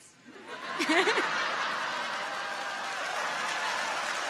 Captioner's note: audience laughs; audience applauds; audience cheers